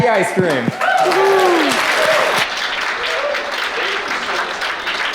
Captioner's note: applause